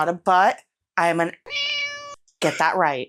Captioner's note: meow